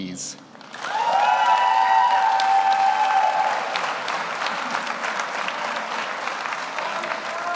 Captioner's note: audience applauds; audience cheers